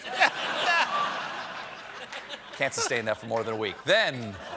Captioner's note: laughter